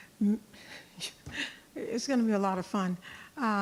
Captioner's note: laughing